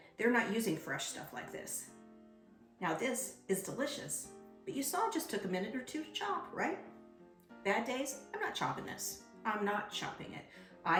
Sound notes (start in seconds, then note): none